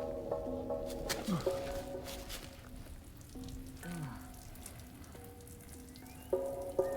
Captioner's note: Mason sighing; liquid streaming